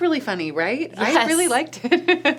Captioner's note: laughs